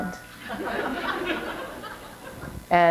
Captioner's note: laughter